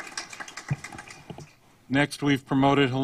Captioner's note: applause